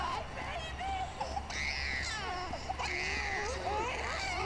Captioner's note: baby crying and screaming